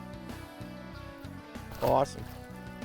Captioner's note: water splashes